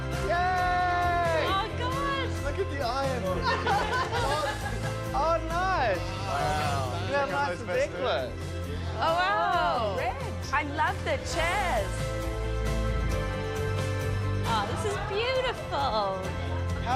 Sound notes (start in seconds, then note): 3.4 laughs; 12.3 upbeat music